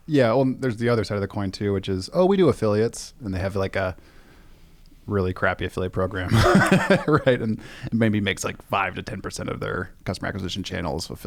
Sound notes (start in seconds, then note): 6.3 laughs